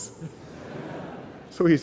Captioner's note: laughter